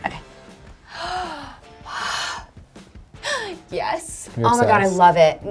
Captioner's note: sighs and gasps